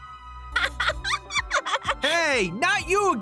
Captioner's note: maniacal laughter